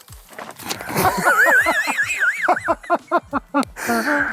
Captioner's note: laughter